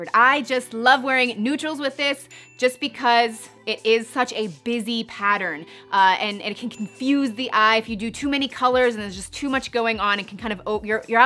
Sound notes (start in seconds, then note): 2.1 chiming; 6.5 chiming